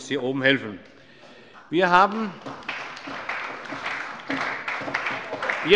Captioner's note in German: Allgemeiner Beifall